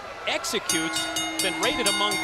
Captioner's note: bell ringing